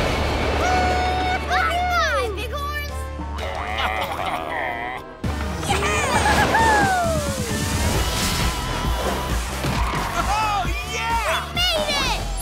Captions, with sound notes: -Woo hoo! -Bye bye bighorns! [baaing] -Yeah! -Woo hoo hoo! -Oh yeah! -We made it!